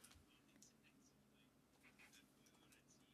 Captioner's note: speaking French